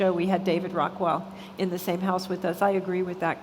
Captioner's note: none